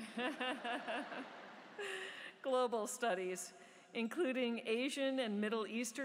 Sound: laughter

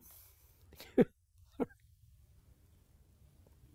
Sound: chuckling

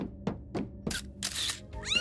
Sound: shutter clicking; cat meowing

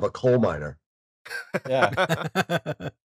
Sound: laughter

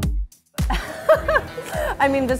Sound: laughter

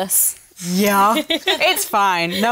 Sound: laughing

